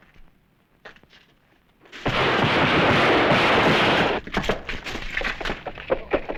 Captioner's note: gunfire